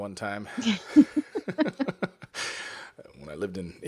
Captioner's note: laughter